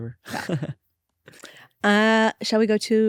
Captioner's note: laughs